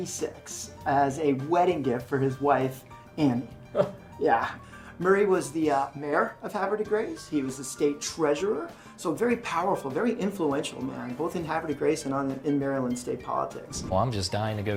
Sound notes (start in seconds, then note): 3.1 exclaims